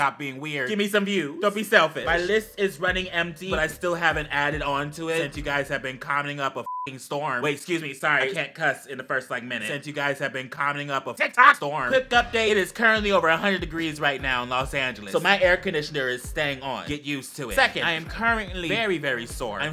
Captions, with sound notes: Stop being weird. Give me some views, don't be selfish. My list is running empty, but I still haven't added on to it, since you guys have been commenting up a (beep) storm. Wait, excuse me, sorry, can't cuss in the first like minute. Since you guys have been commenting up a TikTok storm. Quick update, it is currently over 100 degrees right now in Los Angeles. So my air conditioner is staying on, get used to it. Second, I am currently very, very sore.